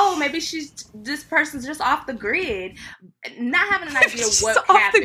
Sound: laughing

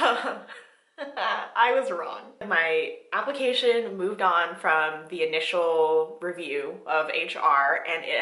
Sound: laughing

